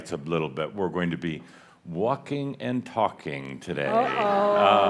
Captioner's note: laughter